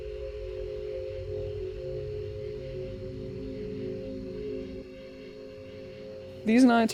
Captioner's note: intense music; insects chirp